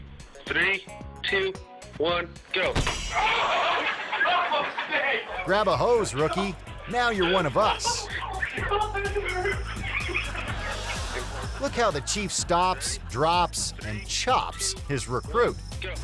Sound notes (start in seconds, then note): 3.5 rookie yelling